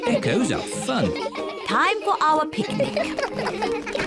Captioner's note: all giggling